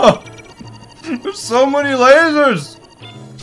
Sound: laughs

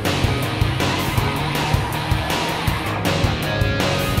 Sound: tires screech; car engine revving

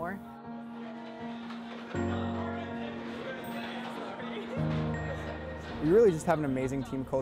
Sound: chatter, clattering

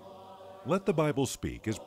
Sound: voiceover

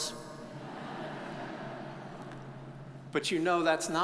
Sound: audience chuckles

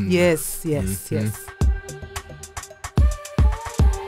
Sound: voiceover

